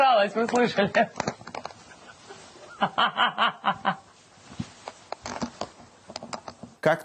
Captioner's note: laughs silently, aloud, silently again